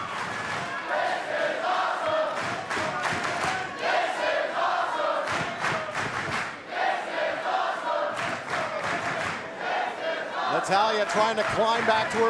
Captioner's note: fans chanting